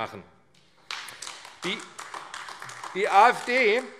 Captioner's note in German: Beifall AfD